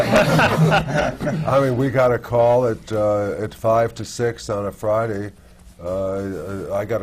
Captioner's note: laughter